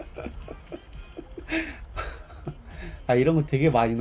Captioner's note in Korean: 웃음